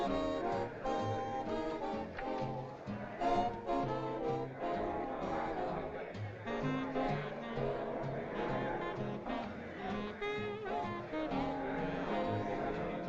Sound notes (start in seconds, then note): 3.3 crowd Murmuring